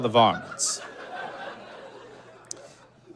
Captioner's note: laughter continues